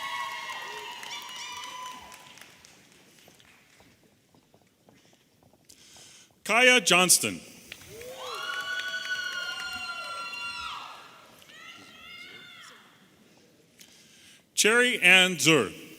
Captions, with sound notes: (audience applauding and cheering) Kiaya Johnston. (audience cheering) Cherry Anne Dzur.